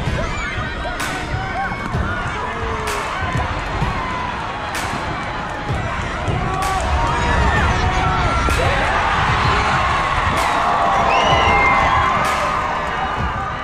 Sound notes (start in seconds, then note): 0.1 intense music; 9.0 crowd yelling; 10.8 whistling